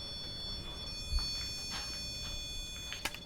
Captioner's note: REM pod beeps